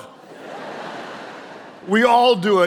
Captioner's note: audience laughing